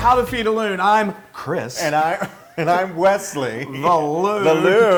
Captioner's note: laugh